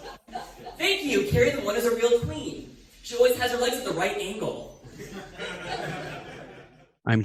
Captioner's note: audience laughter